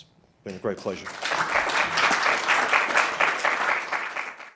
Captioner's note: group clapping